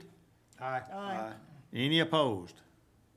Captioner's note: group chanting